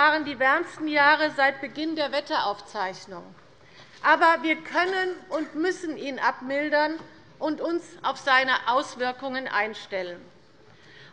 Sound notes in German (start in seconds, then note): none